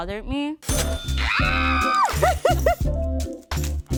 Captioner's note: cheering